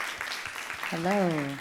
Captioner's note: audience applauding